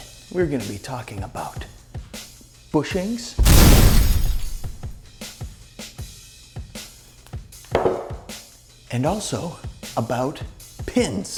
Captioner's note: boom!